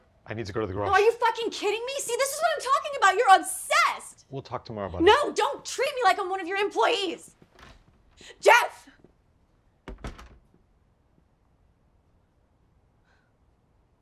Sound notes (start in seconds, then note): 9.8 door closes